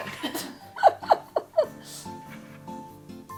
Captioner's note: laughing